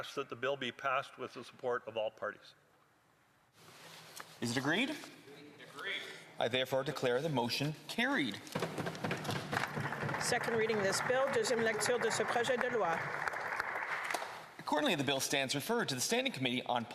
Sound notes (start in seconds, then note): 12.5 some Applause